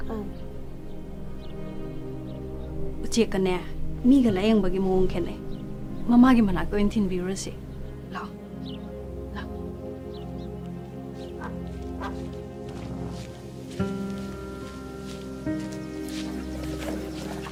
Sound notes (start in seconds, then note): 0.4 boy speaking in a foreign language; 3.2 woman speaking in a foreign language; 10.0 gentle music